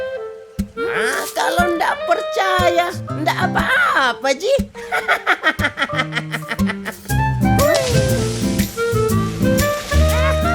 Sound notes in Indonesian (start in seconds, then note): 6.0 Tertawa